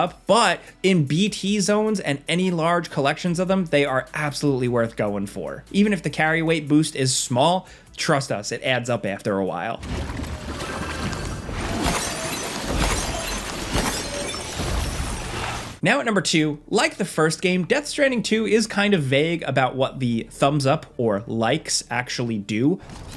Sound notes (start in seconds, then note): 11.9 crystals tinkling